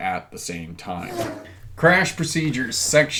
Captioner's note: air whooshing